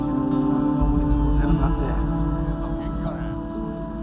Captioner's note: speaking muffled Japanese